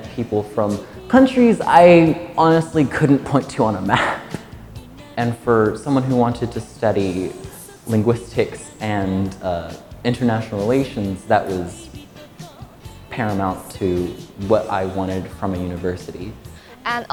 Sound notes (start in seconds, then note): 3.8 chuckling